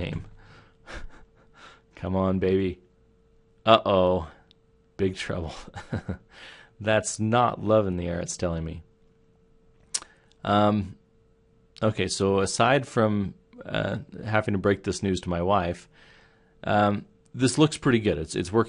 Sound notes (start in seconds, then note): 5.5 chuckles